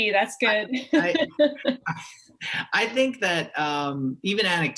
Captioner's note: laughter; chuckle